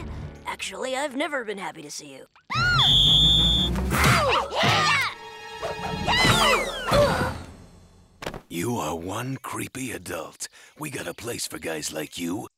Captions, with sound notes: Actually, I've never been happy to see you. [whistle blowing] Ow! Ah! [groaning] You are one creepy adult. We got a place for guys like you.